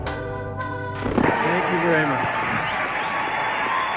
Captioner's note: audience cheering